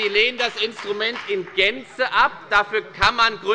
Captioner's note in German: Beifall bei der FDP